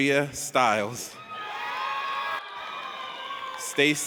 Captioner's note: audience cheers